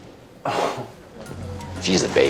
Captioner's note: scoffs